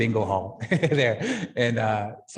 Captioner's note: laughing